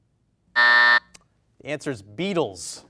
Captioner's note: beep